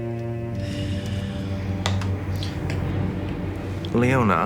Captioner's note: Sarah sighs